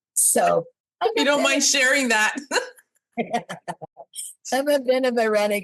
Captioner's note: laughs